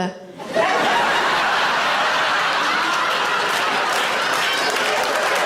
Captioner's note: audience laughs and claps